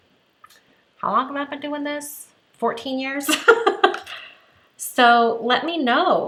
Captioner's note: laughs